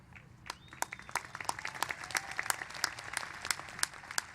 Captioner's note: applause